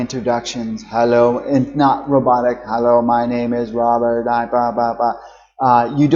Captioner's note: in a robot tone